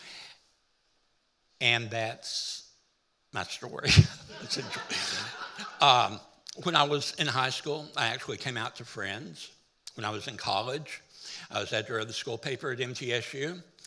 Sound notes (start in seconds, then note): 3.9 laughing